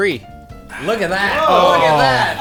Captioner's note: sighs, content